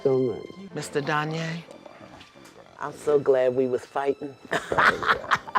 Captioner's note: laughs